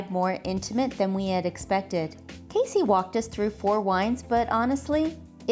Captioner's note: none